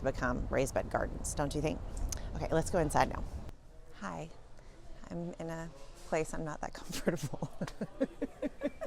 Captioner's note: laughs